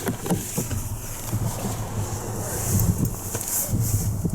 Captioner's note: opening driver's door